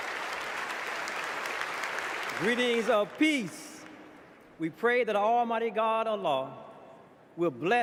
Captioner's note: applause